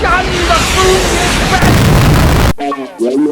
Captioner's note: explosion